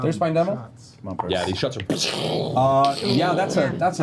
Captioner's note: gunshots